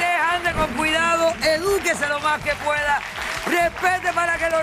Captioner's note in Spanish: aplausos